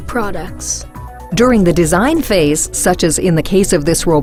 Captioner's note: voiceover